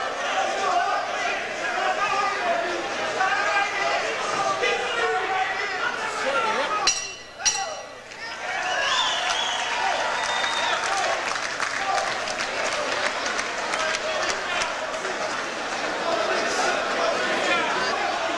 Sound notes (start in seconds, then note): 5.2 bell rings twice to end the 2nd round; 8.0 audience applauds and cheers